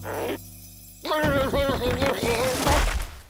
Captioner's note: shouting